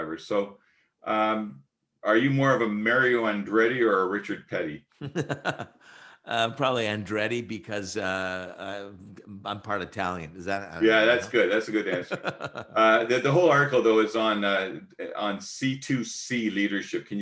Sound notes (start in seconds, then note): 5.0 laughs; 12.4 laughs